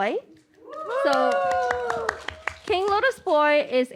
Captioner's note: applause and cheers